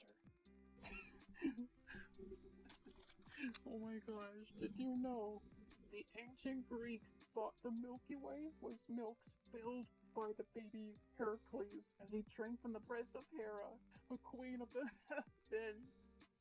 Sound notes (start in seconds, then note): 0.8 breathy laugh